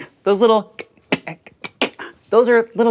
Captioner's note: soft tongue clicks